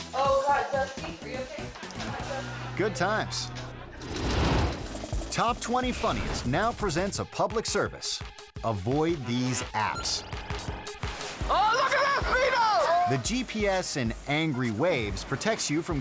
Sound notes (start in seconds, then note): 1.6 audience laughing; 4.0 air whoosh; 8.9 squelchy music